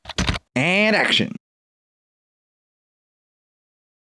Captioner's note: typing